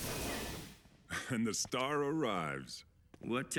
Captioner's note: chuckles